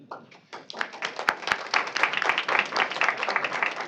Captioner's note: applause